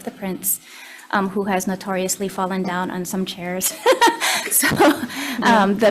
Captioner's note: laughs